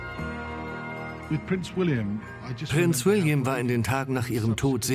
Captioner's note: voiceover